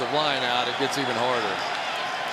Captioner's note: booing